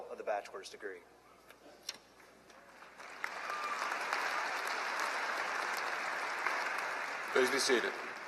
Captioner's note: applause